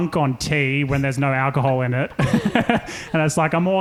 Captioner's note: laughing